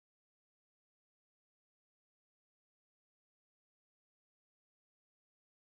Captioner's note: none